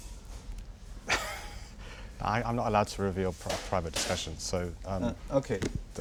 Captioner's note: laughs